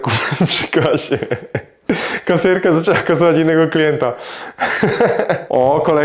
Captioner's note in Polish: śmiech